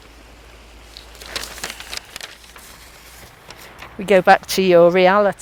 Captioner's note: turning page